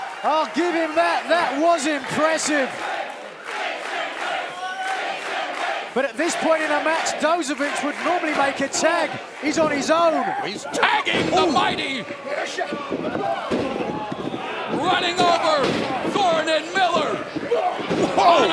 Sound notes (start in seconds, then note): 2.4 fans chanting